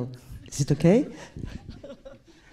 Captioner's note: laughs